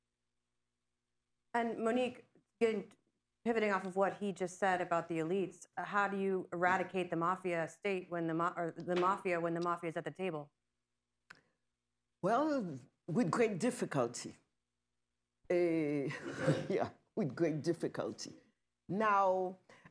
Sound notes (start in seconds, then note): 16.0 laughter